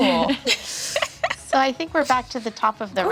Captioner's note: laughing